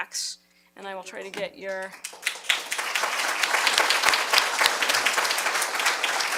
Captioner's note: applause